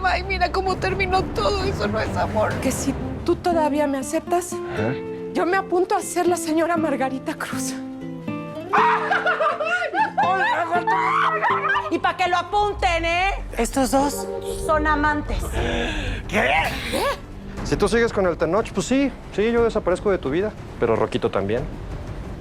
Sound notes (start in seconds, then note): 8.3 cheering